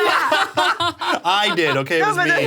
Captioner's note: people laughing